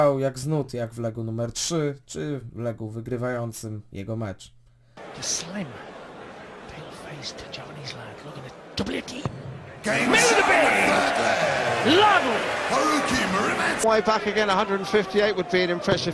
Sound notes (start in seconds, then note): 4.6 in english commentary